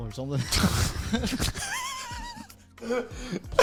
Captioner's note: men chuckle